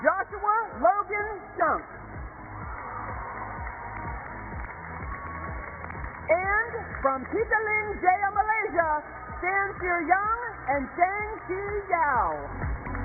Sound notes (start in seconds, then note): 5.9 cheers and applause